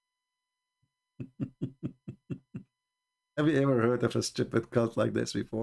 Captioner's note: Ketawa